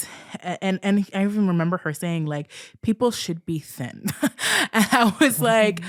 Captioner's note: laughs